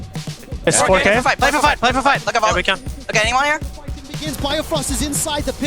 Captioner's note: teammates communicating